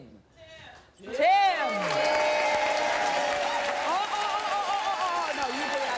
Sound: audience cheering and applause

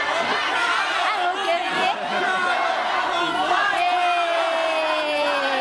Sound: speaks in foreign language

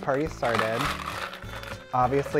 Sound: ice crunching

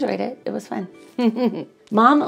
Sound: chuckles

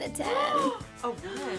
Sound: gasping

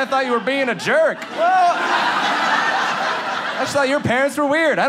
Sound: audience laughs

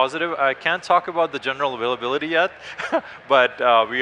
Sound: laughs

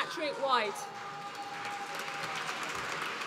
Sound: applause

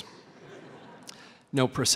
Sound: laughter

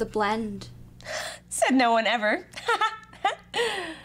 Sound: laughs

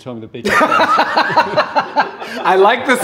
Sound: laughing

